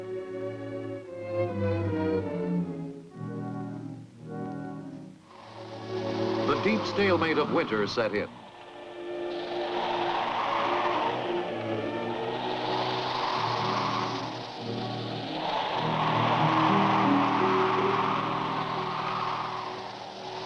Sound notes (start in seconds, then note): 0.3 despairing music; 8.5 wind blowing